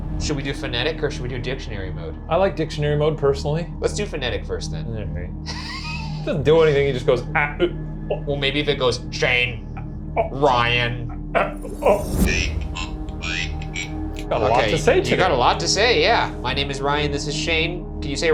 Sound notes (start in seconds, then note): 11.4 Ovalis blaring